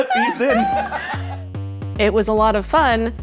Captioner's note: laughing